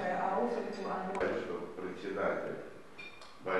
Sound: non-english speech

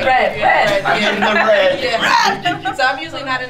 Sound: laughs

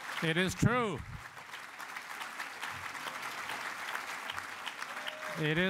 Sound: applause

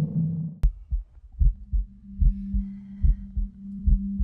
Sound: beating heart

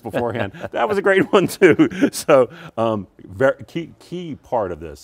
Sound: laughs

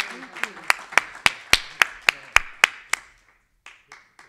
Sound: everybody clapping

